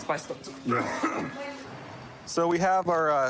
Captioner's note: coughs; clears throat